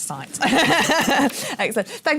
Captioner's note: laughs